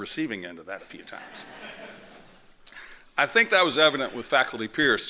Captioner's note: laughter